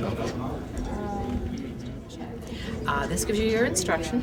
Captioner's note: crowd talking